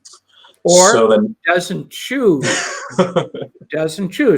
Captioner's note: chuckles